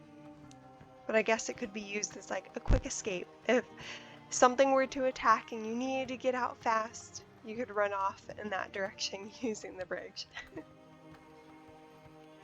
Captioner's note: laughs